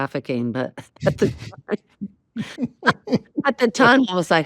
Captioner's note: both chuckle